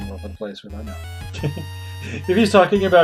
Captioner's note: laughs